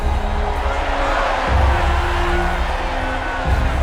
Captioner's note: crowd cheering